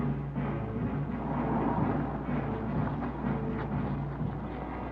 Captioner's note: car engine revving